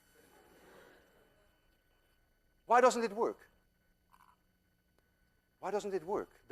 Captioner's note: class laughs